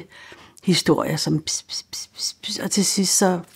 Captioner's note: whispering sounds